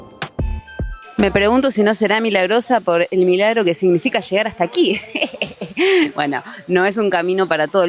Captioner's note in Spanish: risas